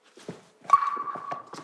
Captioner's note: ting!